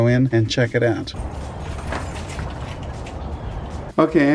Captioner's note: keys jingling